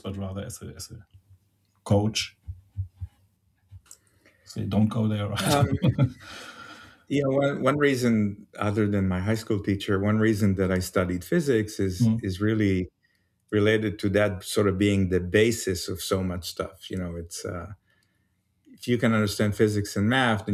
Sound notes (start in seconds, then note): 5.4 laughs